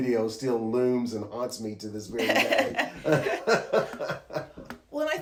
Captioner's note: laughs